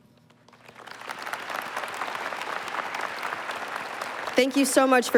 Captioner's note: applause